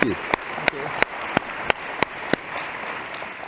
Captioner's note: applause